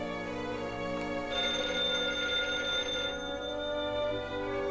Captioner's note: telephone ringing